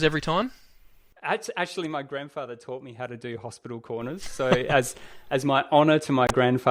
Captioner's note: laughs